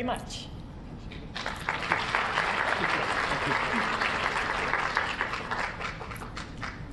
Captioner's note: applause